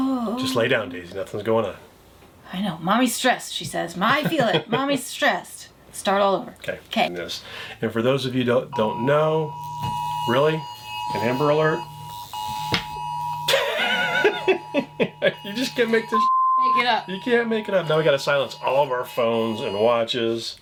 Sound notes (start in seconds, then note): 9.3 humming sound; 13.4 laughs